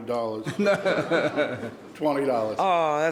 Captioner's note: laughing